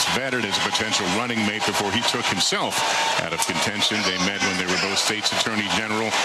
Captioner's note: applause